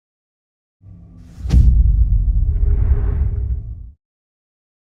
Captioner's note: dramatic sound